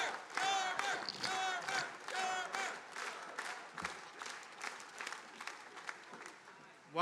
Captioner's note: attendees applauding